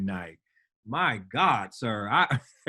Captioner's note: laughs